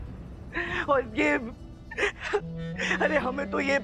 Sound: sobbing

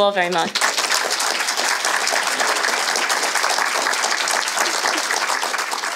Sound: applause

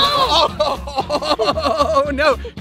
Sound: Rocky laughs

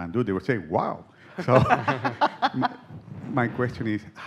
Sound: laughter

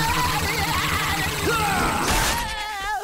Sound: screaming; grunting

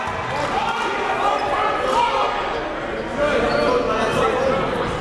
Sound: cheering and yelling

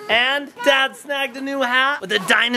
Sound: none

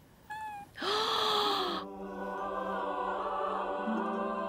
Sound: gasps

